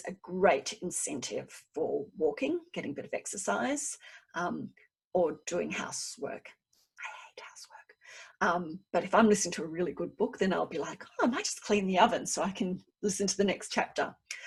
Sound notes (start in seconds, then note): 6.5 whispers: I hate housework